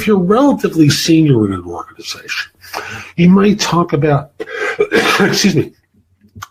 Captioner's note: cough